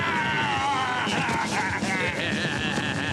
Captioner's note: groaning